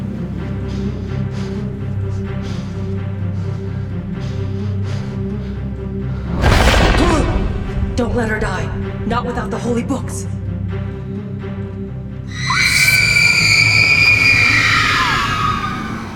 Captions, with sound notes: (Bailey gasping) - Don't let her die. Not without the Holy Books. (Kwan Yin shrieking)